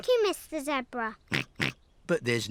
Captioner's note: snorts